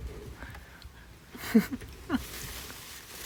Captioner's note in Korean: 웃음